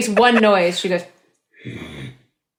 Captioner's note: grunts